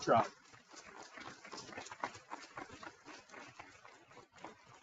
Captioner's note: people clapping